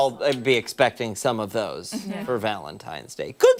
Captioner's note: laughter